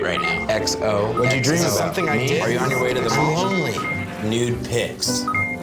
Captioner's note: beeping